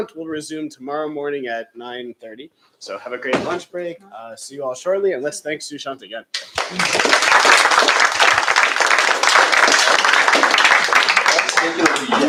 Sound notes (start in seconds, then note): 6.4 applause